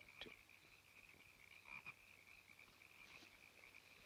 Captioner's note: frogs croaking